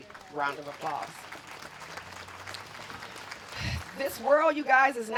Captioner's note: applause